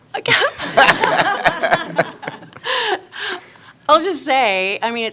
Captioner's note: members laughing